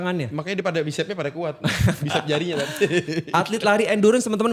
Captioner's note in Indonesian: tertawa